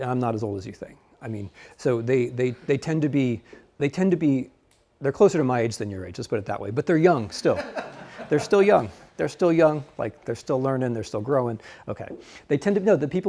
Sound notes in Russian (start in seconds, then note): 7.4 студенты смеются